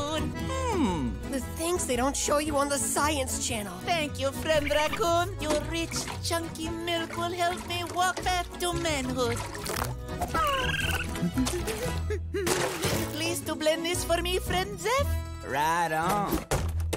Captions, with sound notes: Hmm. The things they don't show you on the Science channel. Thank you, friend raccoon. You're rich, chunky milk will help me walk back to manhood. [chittering] [humming] Please do blend this for me, friend Zeph? Right on.